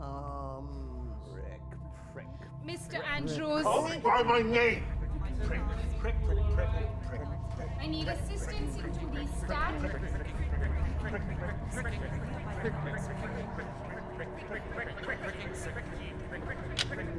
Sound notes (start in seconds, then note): 11.2 patients chattering; 16.6 lock clicks